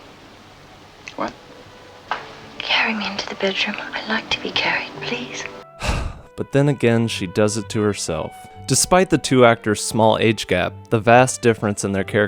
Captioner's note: sigh